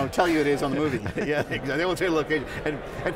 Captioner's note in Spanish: risas